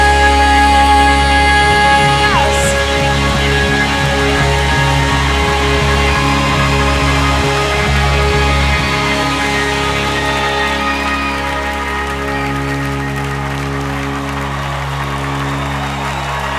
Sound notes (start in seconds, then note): 2.8 clapping, cheering